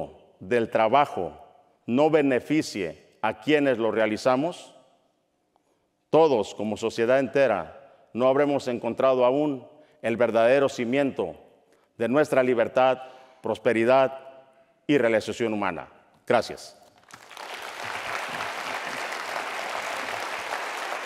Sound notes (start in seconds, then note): 16.9 applause